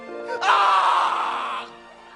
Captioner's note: blood curdling scream